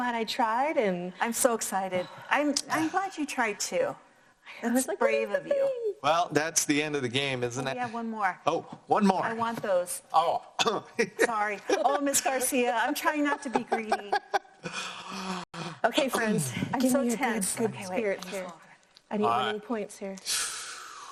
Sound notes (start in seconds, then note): 11.0 chuckles